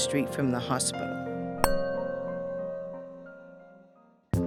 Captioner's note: bell Rings